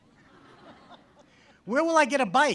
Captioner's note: audience laughs